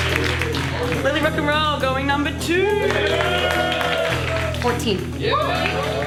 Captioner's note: applause; applause